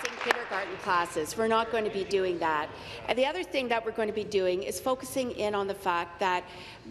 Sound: applause

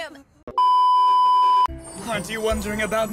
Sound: beep

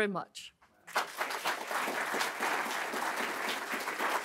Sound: crowd applauds

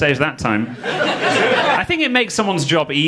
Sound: audience laughing

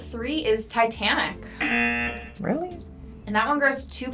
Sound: buzzer

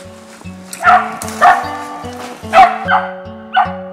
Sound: dog barking

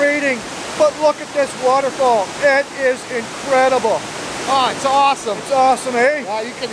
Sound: roaring water

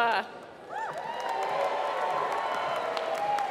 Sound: applause

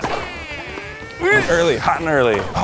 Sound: grunts

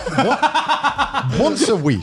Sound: laughs

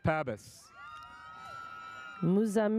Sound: audience cheers

